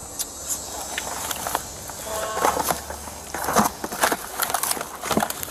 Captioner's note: officer shuffles through items